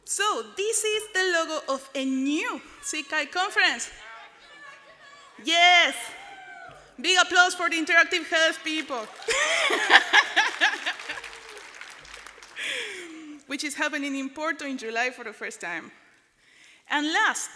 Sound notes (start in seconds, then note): 8.4 applause